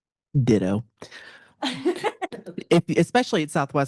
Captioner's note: panelist laughing